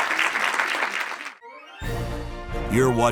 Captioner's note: audience applauding; bright music